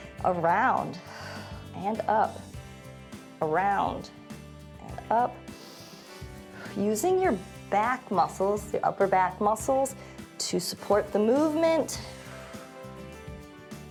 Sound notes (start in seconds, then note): 1.0 exhales; 5.5 inhales; 12.0 exhales